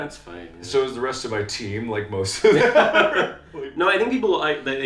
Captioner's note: laughs